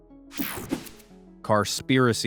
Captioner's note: screen buzzing